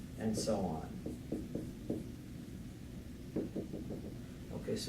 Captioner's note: writing Sounds